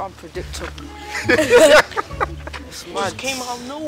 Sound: laughing

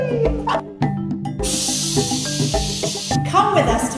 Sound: splash

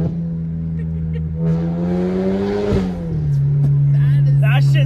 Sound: engine revving; laughs

